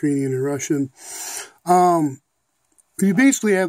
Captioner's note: breath